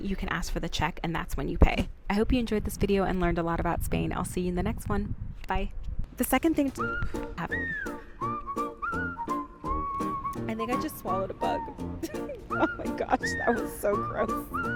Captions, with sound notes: you can ask for the check and that's when you pay. I hope you enjoyed this video and learned a lot about Spain. I'll see you in the next one, bye. The second thing... (playful music) I think I just swallowed a bug. (laughs) Oh my gosh, that was so gross.